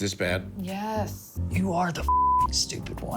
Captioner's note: beep